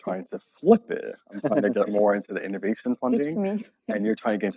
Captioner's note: laughing